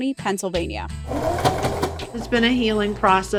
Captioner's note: mechanical needle sewing